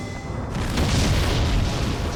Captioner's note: explosion